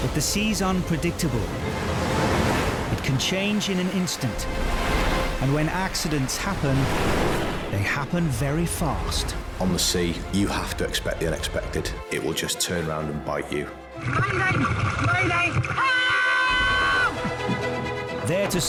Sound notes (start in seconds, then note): 7.0 waves crash; 15.1 yells